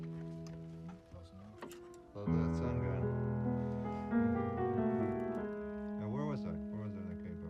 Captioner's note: indistinct chatter